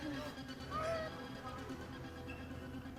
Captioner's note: child whimpers; tense rapid music